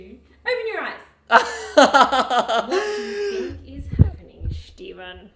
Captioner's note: laughs